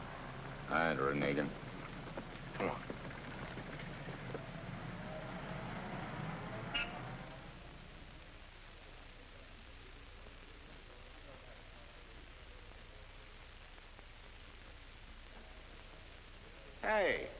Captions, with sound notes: I ain't reneging. Come on. (engines humming) (horn honks) Hey.